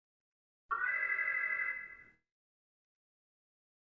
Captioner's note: alarm